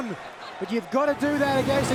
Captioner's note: whooshing sound plays